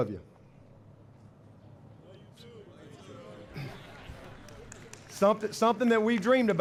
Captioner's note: applause